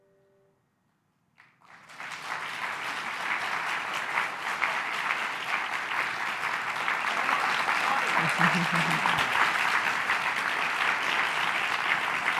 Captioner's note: applause